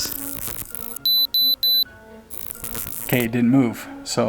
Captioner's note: digital buzzing and beeping